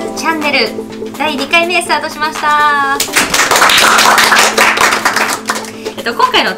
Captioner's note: applause